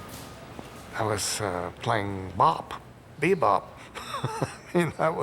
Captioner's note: laughs